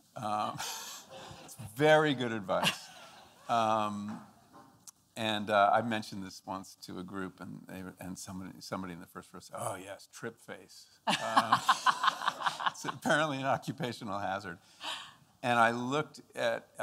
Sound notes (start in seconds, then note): 11.0 laughing